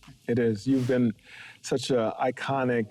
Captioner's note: air whooshing